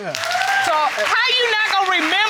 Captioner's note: audience cheering